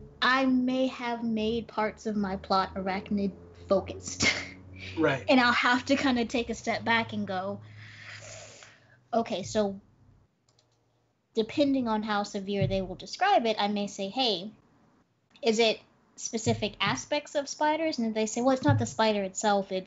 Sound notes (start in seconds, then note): 4.8 laughs; 7.7 inhales